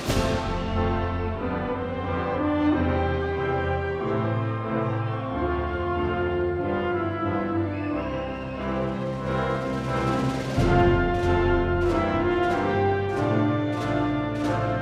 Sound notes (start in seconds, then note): 6.9 crowd cheering